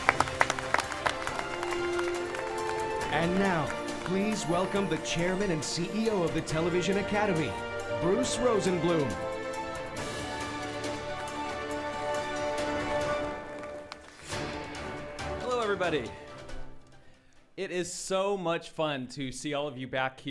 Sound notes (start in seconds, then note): 7.4 applauding